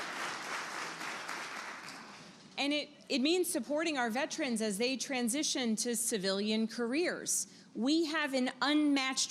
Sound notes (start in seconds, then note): 0.0 applause